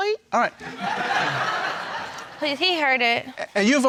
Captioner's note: crowd laughs